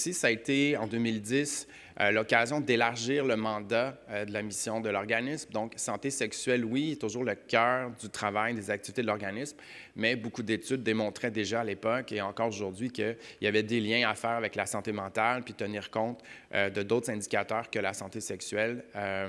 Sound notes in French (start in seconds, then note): none